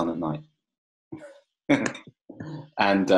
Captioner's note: laughs